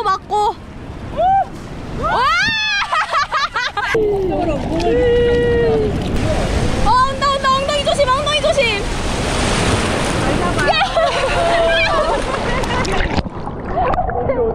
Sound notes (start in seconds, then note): 0.9 windmill spinning